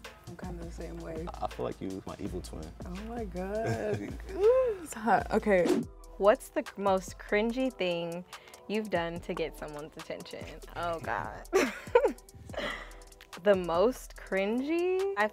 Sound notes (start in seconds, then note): 11.4 laughs